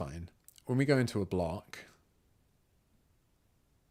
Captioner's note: silence